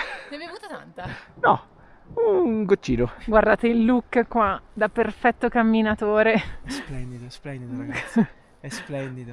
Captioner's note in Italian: risate; risate